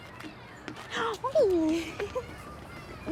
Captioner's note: Alejandra shrieks